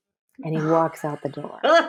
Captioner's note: laughs